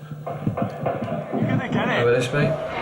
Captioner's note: gun blasts on TV